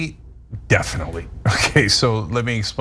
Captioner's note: laugh